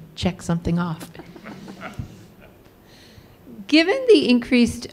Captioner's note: laughing